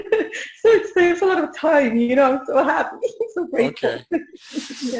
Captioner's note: audio warbling